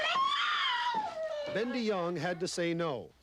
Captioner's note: baby cries